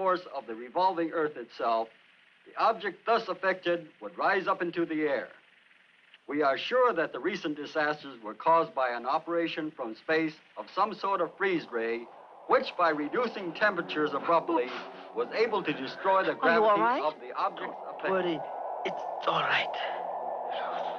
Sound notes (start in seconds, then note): 14.4 magnetic humming